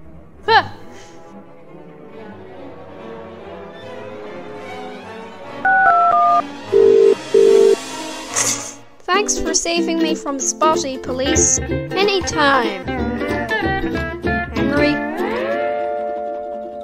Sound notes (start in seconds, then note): 5.7 dialling Phone